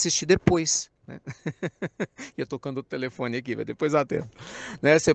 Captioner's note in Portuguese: risadas